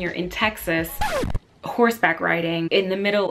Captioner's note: record scratching